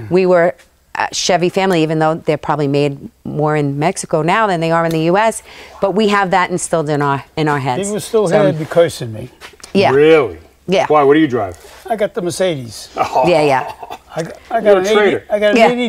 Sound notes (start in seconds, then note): 12.9 laughing